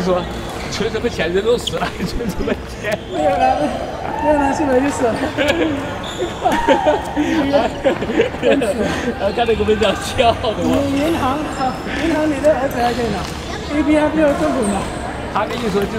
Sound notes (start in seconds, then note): 2.9 chuckles